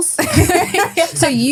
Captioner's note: laughing